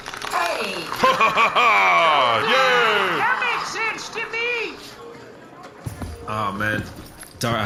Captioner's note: applauding